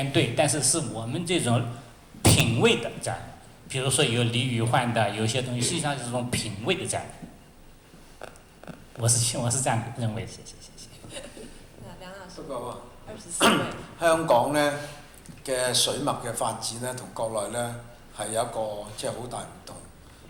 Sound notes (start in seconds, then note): 10.7 Mandarin; 13.3 Cantonese